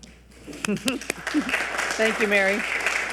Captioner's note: audience applauding